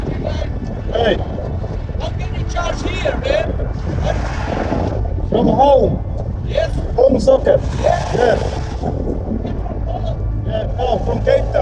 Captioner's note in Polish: rozmowa w j. angielskim